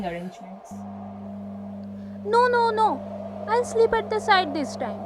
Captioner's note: wind sound